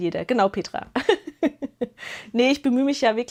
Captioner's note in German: gelächter